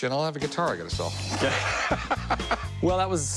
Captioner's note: laughs